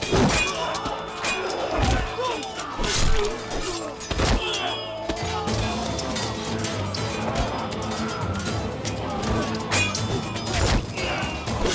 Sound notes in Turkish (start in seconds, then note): 0.3 Aksiyon müziği; 6.0 Kılıç sesleri